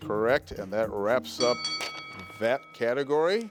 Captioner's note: bell ringing